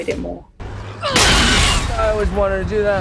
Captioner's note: smashing